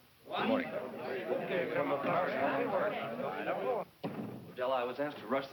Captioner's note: angry discussion